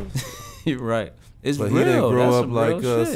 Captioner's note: laughs